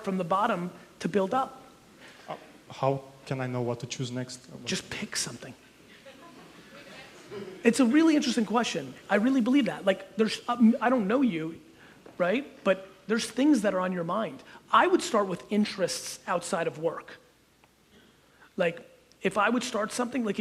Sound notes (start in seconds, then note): 5.9 audience chuckles